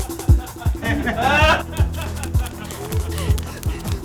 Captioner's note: menacing laughter